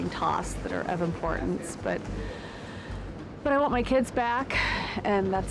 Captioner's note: sighs